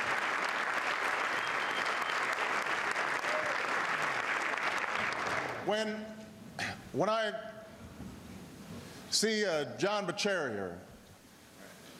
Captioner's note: applause